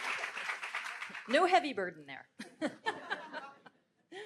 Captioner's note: laughs